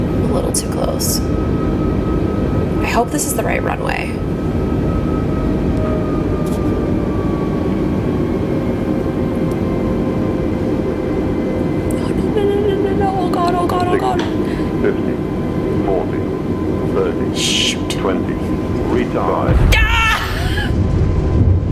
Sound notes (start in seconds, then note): 5.9 engine slows; 17.5 whispers; 20.5 chuckles; 21.5 simulated plane rumbles